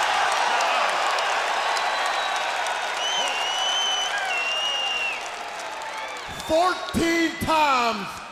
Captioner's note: crowd cheering